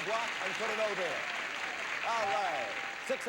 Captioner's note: audience applauding